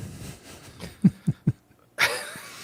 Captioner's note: laughing